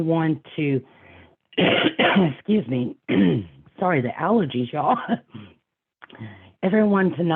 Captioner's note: coughing